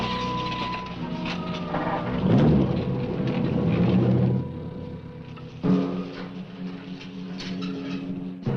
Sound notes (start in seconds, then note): 2.3 engine cranks; 5.6 dramatic music